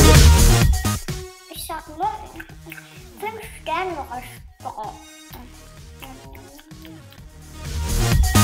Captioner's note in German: Schmatzen